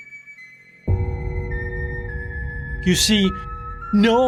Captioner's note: gong crashing